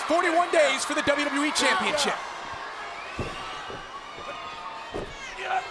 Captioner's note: fighters grunting